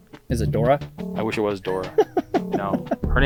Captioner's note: laughing